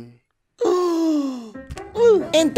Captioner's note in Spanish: respiro profundo